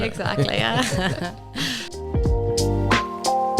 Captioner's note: all laughing